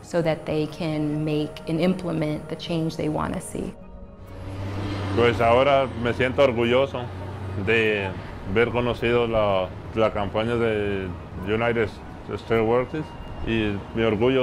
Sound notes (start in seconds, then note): 3.7 speaking Native Language